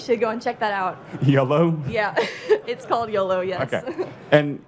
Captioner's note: laughs